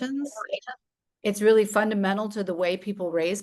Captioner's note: static